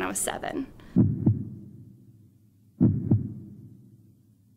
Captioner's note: thumping